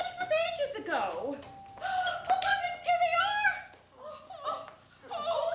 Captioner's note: doorbell